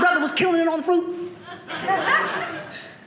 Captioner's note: audience laughing